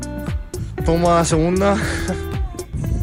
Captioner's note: foreign language 00:28:58